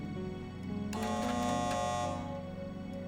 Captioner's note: buzzer buzzes